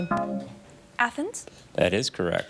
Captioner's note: bell dings; buzzer buzzes